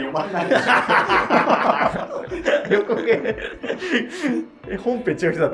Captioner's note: laughing